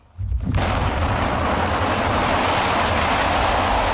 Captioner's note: explosion booms